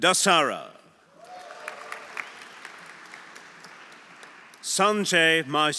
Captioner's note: audience cheering; audience applauding